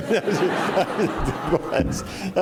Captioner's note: laughing; laughter